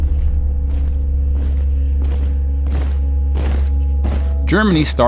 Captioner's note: sound of soldiers marching